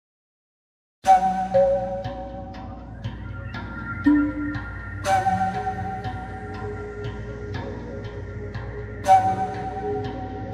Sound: sound of scary jungle

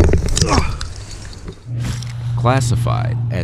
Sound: student grunts

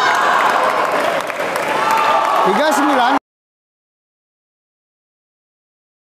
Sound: applause

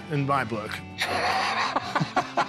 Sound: laughs

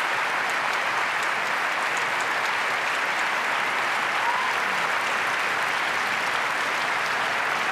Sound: applause

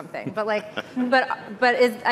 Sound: chuckling

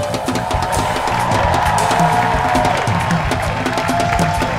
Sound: jazzy upbeat music; audience clapping

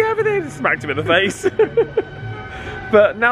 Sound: laughs

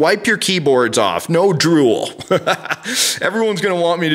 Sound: laughs

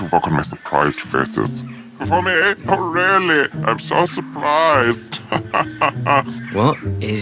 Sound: chuckles

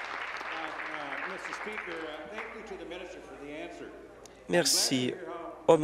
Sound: applause

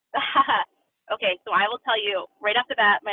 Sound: laughs

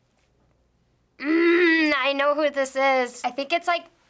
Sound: grumbling

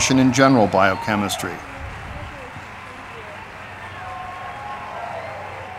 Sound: audience applauding

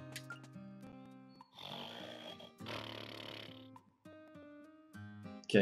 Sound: Yellow Toad snores

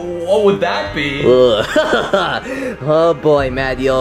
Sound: laughing

